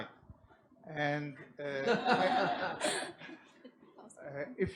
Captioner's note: audience and hosts laugh